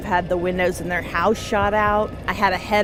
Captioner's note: car beeping